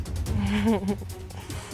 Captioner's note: chuckles